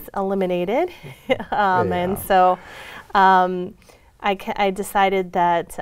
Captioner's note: laughs